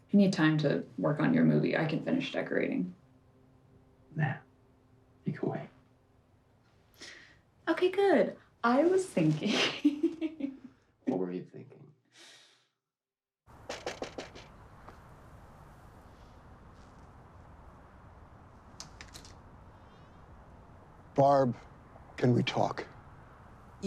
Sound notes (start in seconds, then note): 9.5 laughs; 13.7 knocking on door